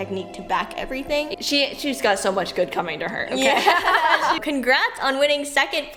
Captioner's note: laughs